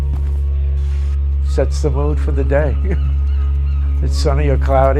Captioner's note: chuckles